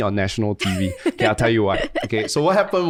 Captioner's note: laughs